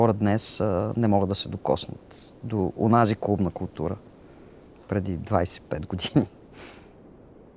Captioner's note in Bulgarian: смее се